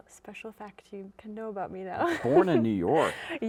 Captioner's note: giggles